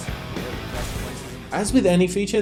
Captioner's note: car crashes